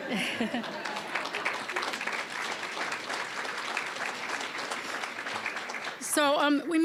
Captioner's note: audience laughing; applause